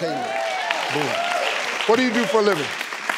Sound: clapping

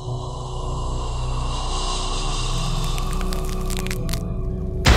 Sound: bones cracking

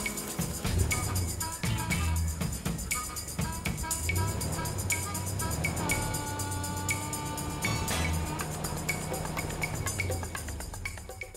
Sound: car engine

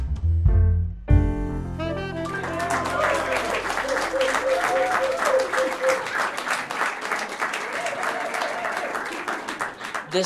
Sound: applause

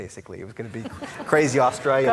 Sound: laughing

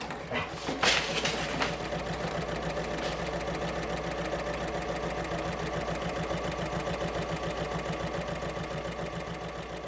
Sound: sewing Machine Sounds

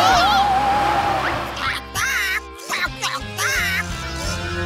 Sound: squawking

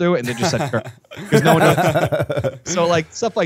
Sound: chuckle

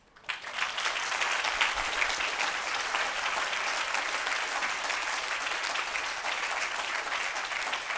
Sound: audience applauds

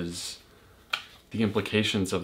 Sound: clap

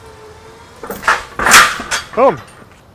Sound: clunking

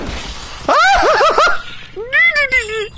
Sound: screams

